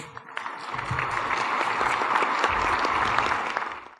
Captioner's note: applause